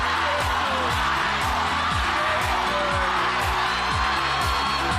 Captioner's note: audience chanting